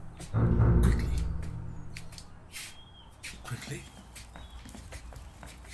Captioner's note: quietly